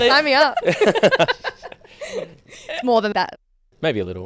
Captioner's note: imitating circus music; all laugh; laugh